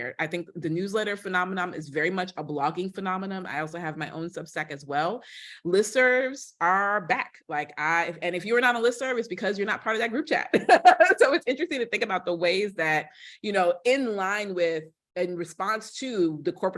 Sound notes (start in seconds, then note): 10.5 laughter